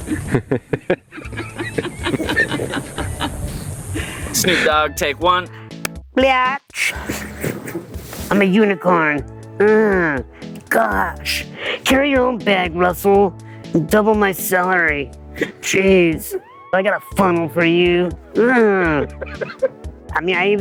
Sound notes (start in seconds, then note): 0.0 people laughing; 18.2 man laughing; 18.3 grunts